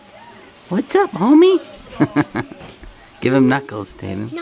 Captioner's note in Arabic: يضحك